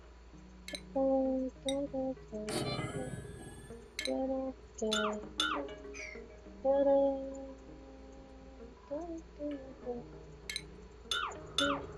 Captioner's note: humming; lower humming